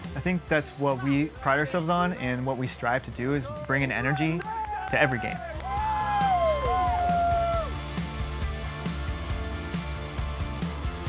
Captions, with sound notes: I think that's what we pride ourselves on, and what we strive to do, is bring an energy to every game. (crowd cheering) (upbeat music)